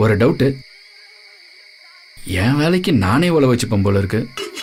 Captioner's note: murmers